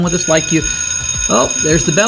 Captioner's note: bell rings